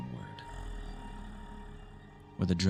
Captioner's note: monstrous growl